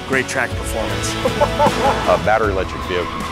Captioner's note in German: lacht